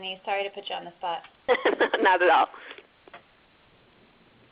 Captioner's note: laughs